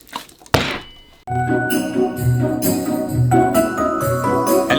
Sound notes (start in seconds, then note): 0.5 thud!; 1.3 christmas Intro Music